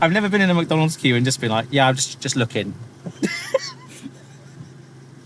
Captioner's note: laughs